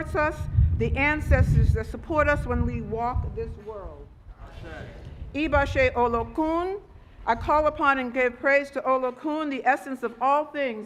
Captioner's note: speaking Foreign Language